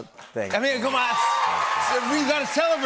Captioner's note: cheers and applause